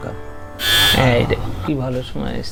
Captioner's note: doorbell rings